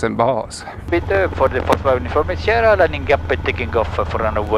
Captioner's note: radio chatter